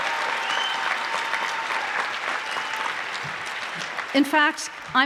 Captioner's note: applause